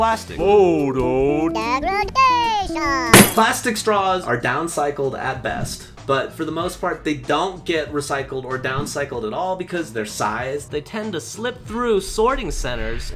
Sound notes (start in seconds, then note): 3.1 lightbulb bursts